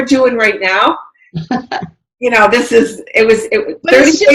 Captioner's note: laughs